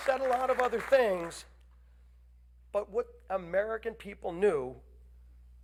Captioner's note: applause